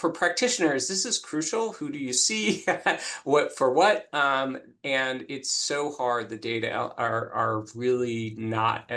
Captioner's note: laughs